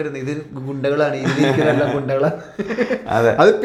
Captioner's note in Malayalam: പൊട്ടിച്ചിരി